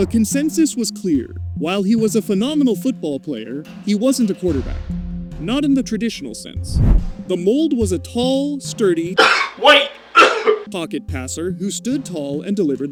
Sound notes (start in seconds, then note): 9.1 cough